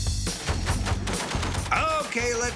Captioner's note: gunfire